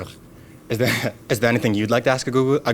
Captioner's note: laughs